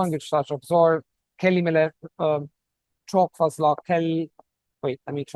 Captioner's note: speaking Turkish